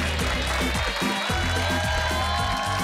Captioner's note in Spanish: Aplausos